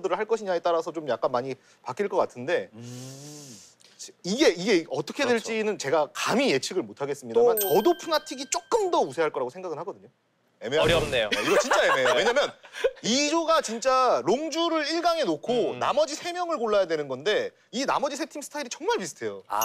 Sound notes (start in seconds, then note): 2.8 inhales deeply